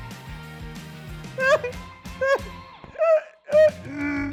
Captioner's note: sobs